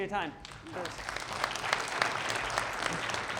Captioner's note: audience applauding